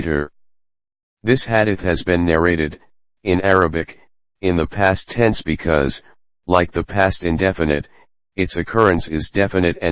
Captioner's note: in Arabic